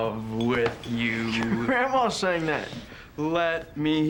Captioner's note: laughs